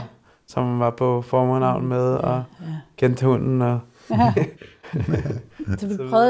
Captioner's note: laughs